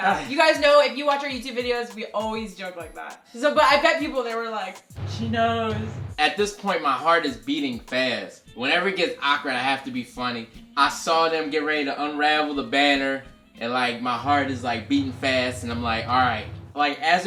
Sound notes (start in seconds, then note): none